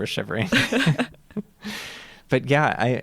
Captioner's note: laughter